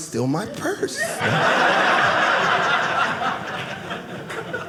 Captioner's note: audience laughing